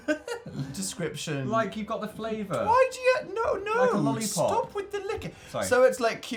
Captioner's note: chuckles